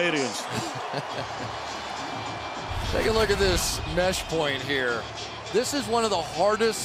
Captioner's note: laughs